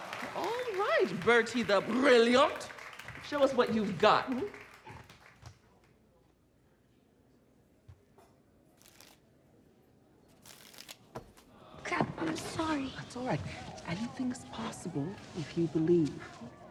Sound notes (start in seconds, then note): 8.5 shuffling